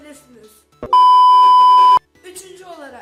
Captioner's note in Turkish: bip ses efekti